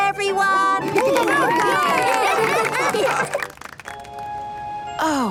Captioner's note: cheering, applause